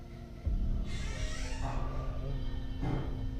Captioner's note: door creaking; gentle tense music